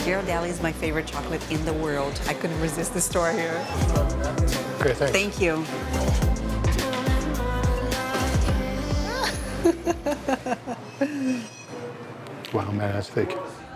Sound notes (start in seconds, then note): 9.1 laughs